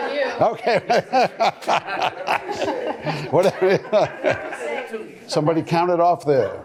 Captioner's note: laughing